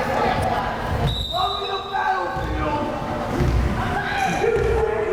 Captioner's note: whistle blares